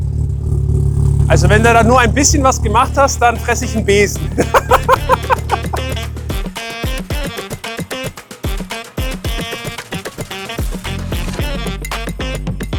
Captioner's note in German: gelächter